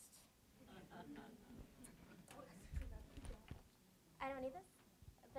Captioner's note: audience laughs